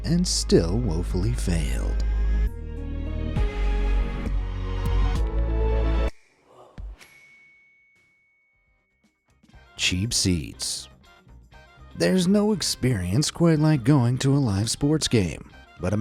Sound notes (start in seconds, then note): 2.3 light suspenseful music; 7.1 bell dings